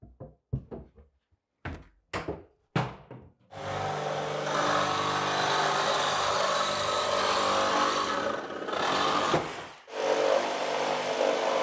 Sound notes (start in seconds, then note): 3.6 tool whirring